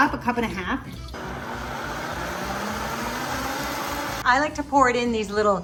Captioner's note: blender whirs